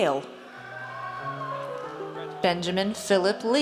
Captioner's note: audience cheers